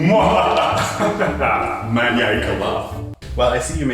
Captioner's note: fake evil laugh